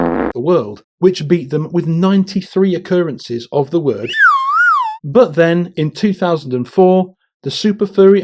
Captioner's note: fart noise; slide whistle